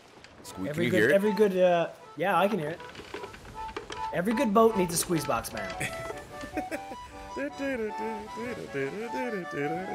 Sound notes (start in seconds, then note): 5.5 laugh